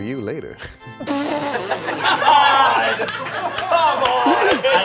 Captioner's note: all laughing